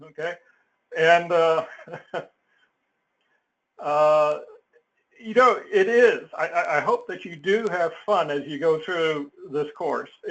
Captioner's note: laugh